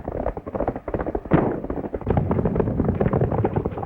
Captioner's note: gunshot